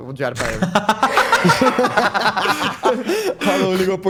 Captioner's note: laugh